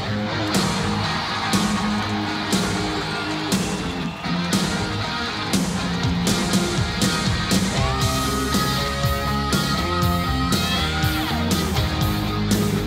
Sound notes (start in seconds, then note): 1.1 crowd cheering